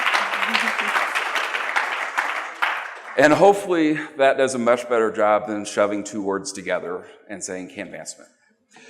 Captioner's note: applause